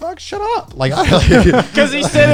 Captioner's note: guys laughing